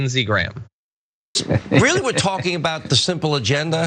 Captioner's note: laugh